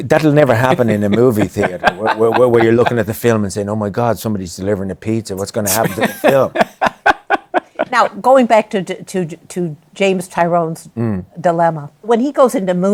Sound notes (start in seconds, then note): 5.7 laughs